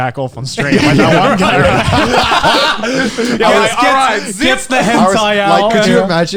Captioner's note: laughs